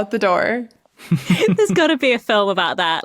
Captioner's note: snickers